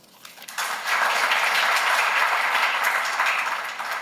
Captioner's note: applause